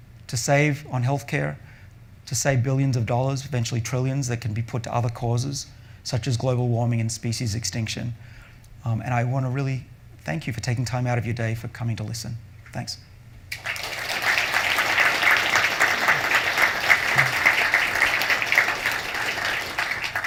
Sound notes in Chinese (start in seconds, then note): 13.5 掌聲